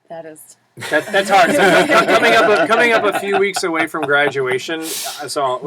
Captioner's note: laugh